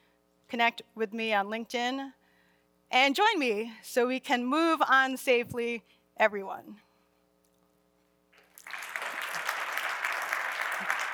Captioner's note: applause